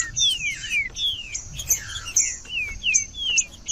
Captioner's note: trinca ferro cantando